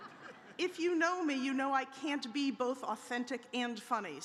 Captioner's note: audience chuckles